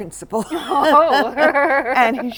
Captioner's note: laughter